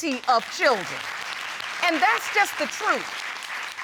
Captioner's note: applause